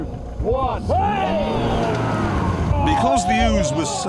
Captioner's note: everyone strains